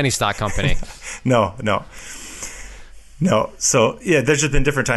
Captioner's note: chuckles